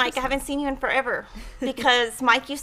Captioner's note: chuckles